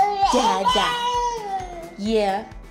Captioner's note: baby gurgling